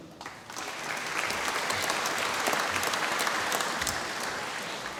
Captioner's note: applause